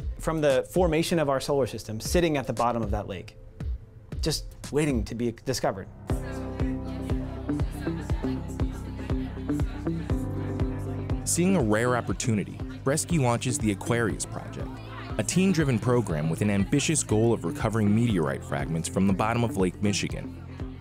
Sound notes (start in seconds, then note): 6.4 students talking; 6.4 upbeat music